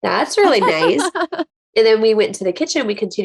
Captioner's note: laughing